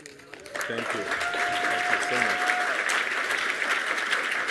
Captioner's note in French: Applaudissements